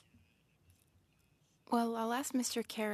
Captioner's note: speaking French